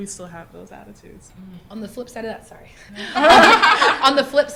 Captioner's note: laughter